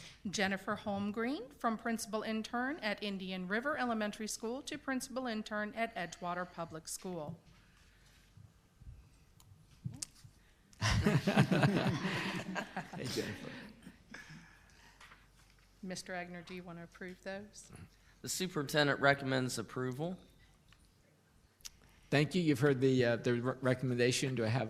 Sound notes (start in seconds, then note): 10.8 laughs